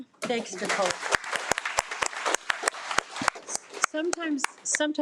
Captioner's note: attendees applaud